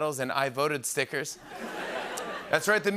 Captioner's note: laughter